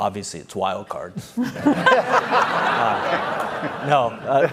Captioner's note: laughter